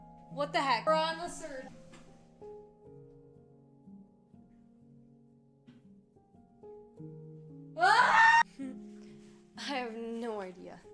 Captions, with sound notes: What the heck? We're on the search. (Soft Music) (Screaming) What the What the heck! I have no idea.